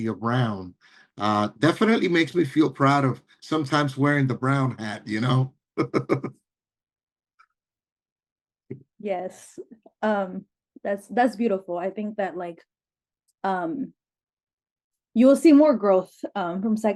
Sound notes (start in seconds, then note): 5.8 laugh